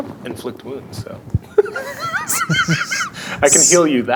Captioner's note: laughs